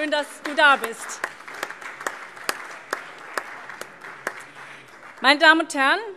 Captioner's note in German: Allgemeiner Beifall